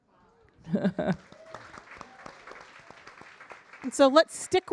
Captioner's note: audience applauding